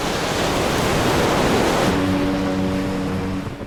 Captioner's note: waves crash